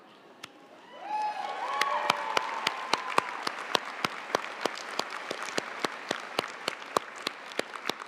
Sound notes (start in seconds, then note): 0.9 audience cheering and applauding